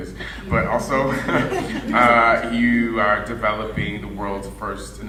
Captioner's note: audience laughing